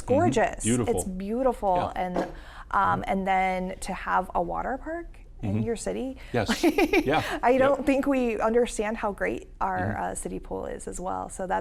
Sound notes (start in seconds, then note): 6.4 laughs